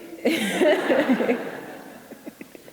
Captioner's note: everyone laughing